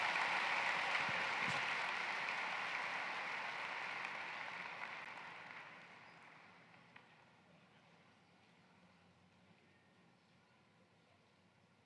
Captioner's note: applause